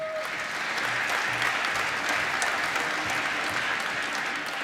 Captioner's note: applause